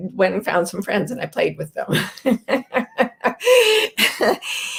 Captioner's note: laughs